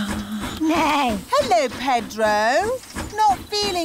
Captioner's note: neighs